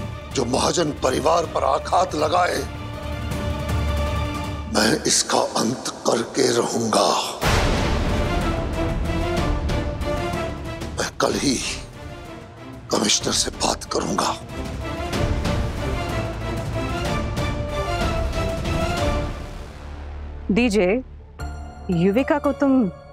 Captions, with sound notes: attack the Mahajan family? I would surely put an end to this. (thundering) I will speak to the commissioner tomorrow. (hopeful music playing) DJ, don't take Yuvika